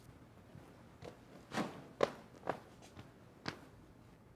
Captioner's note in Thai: เสียงฝีเท้า